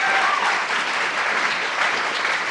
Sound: applause

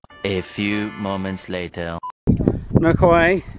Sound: voiceover

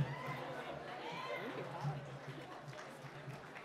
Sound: applause

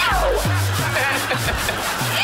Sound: laughing

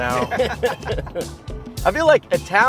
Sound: all laugh

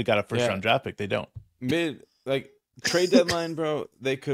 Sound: coughing

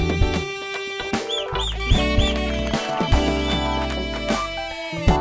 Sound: whistling

